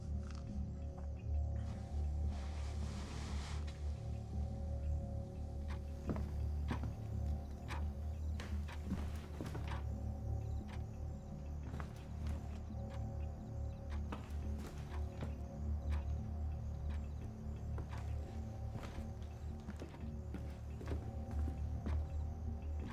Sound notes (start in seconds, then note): 0.1 soft suspenseful music continues; 5.7 footsteps tapping; 6.6 clock ticking; 18.6 soft suspenseful music continues